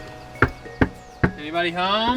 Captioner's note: knocking